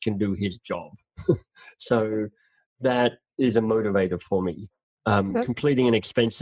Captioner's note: laughs